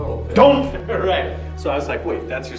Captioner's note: laughing